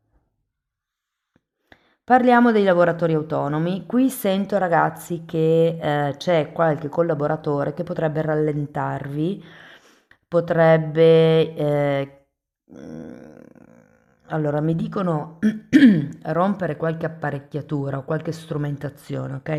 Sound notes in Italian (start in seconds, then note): 12.8 sbuffare; 15.6 schiarire la voce